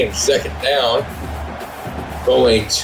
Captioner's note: crowd Noises